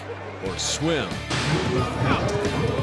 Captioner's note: fast hoof beats